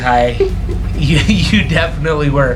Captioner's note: giggling